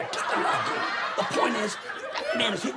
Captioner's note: audience laughs